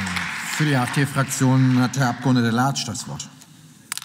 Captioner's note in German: Beifall